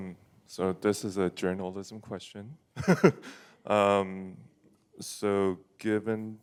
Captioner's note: laughs